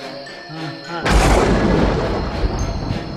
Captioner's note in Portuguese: raios e trovões